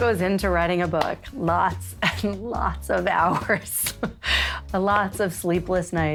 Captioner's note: laughs